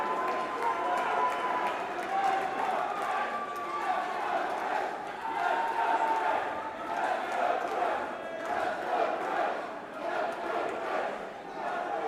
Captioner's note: crowd cheering